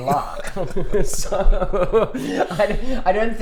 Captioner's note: both laugh